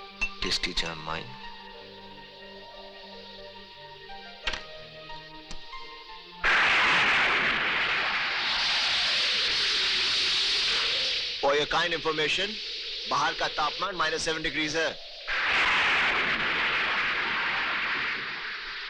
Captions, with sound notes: With jam on mine., (Thunder Rumbling) For your kind information, The temperature outside is -7!